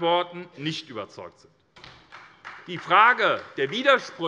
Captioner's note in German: Beifall SPD